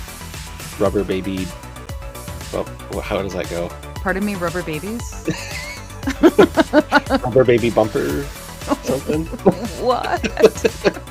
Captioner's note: laughter